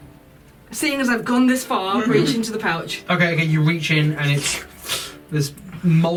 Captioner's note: squelching noises